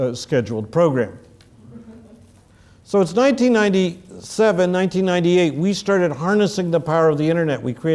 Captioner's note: laugh